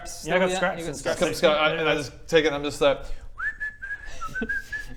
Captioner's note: innocent whistles